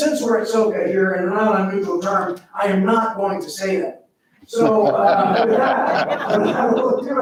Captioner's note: crowd laughs